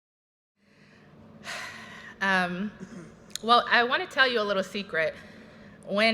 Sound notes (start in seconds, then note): 1.4 inhales deeply; 1.6 exhales sharply